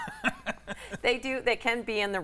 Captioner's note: laughs